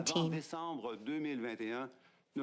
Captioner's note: speaking French